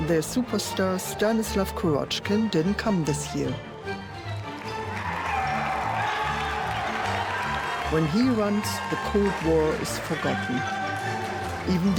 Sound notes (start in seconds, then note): 5.8 crowd applauding and cheering